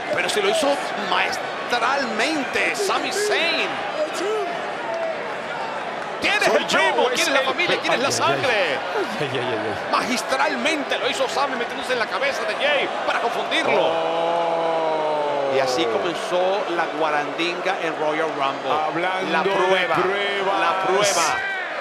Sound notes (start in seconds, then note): 4.8 applause